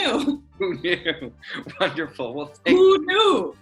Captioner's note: laughing